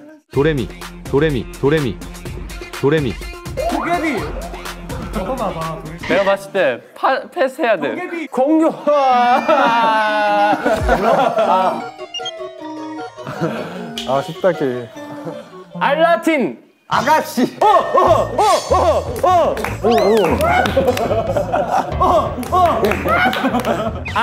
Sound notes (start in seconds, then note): 8.9 crying